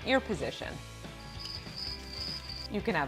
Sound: crickets

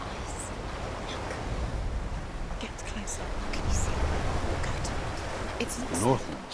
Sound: whispering

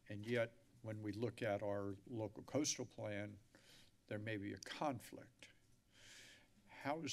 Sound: none

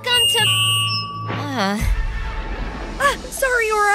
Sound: microphone feedback

